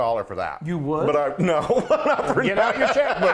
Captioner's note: laughs